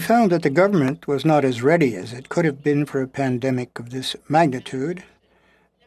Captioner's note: speaking French